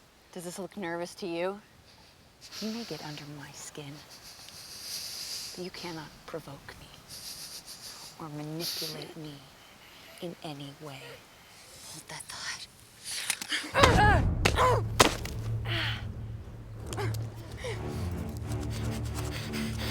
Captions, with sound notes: - Does this look like nervous to you? You may get under my skin, but you cannot provoke me or manipulate me in any way. - Hold that thought. (women grunting) (tense music)